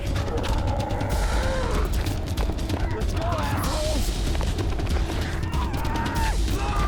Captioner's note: dramatic music; zombies snarling